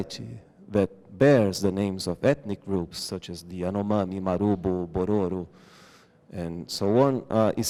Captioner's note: non-english